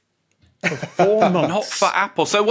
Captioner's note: chuckles